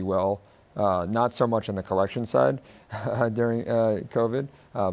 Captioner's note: chuckles